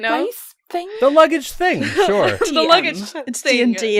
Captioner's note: laughter